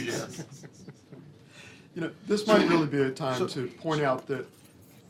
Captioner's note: laughter